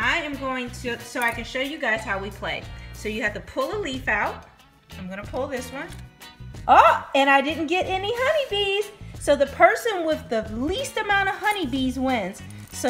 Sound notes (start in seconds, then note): none